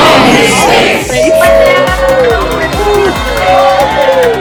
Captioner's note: crowd applauding